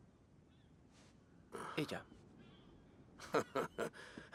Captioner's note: chuckling